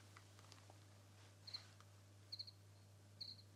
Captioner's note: chirping